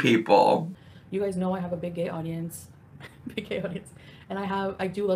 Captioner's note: chuckles